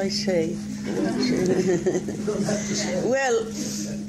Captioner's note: laughing